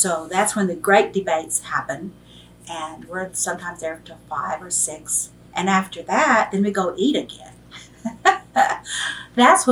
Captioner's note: laughs